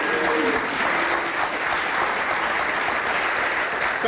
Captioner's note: applauding